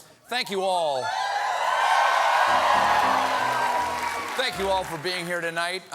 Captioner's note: cheers and applause